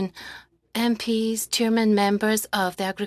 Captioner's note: speaking French